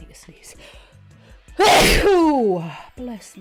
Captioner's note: sneezing